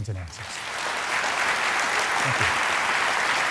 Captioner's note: applause